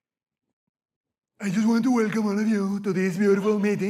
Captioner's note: mockingly